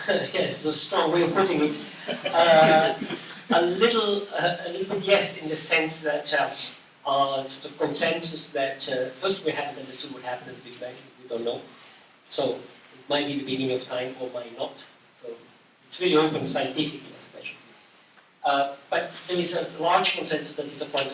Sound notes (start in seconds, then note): 1.3 laughter